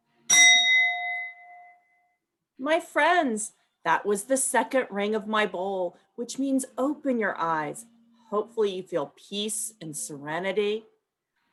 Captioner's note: bell rings